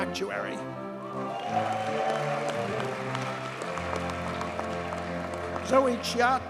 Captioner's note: audience cheers and applauds